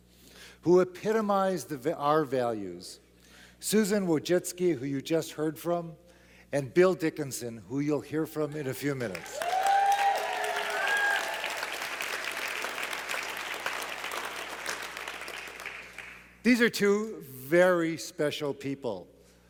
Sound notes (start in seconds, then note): 9.0 claps